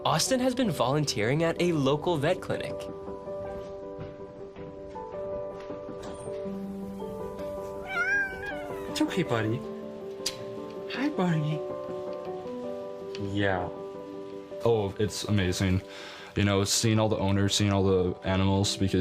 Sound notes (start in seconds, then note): 7.7 cat meowing